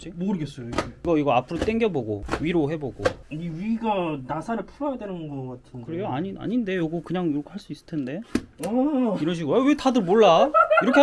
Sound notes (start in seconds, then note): 8.1 clap!